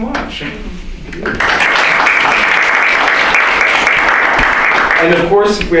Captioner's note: applause